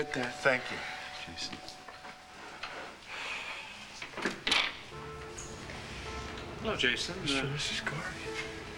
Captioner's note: doorbell rings